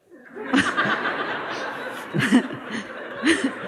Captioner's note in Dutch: gelach